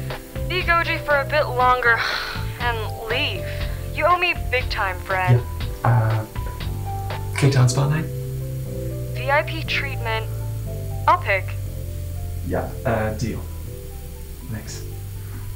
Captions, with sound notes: Be Goji for a bit longer [groans] and leave. - You owe me big time friend. - Yeah, K-town spa night? VIP treatment. I’ll pick. Yeah, deal. Thanks.